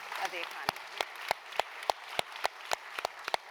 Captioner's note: applause